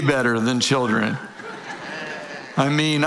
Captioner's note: audience laughing